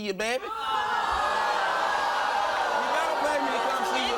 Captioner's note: audience vocalizing